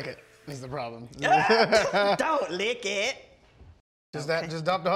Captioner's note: laughter